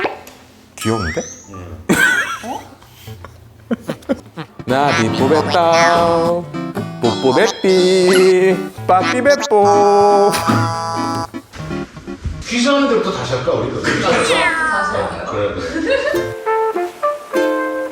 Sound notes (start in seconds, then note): 7.0 tears